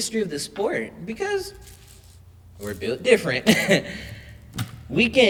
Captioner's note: laughs